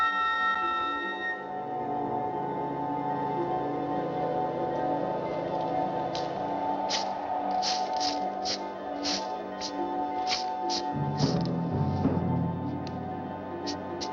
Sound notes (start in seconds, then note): 10.2 brushing Continues